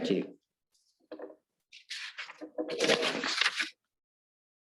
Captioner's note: paper rustling